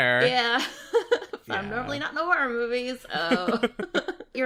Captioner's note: laughs; laughs